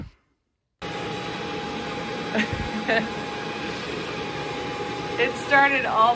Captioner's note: vacuum machine whirring